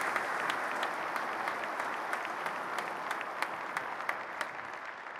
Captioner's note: applause and music